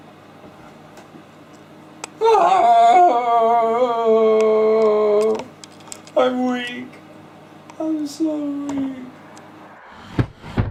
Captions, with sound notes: (wailing) I'm weak! I'm so weak!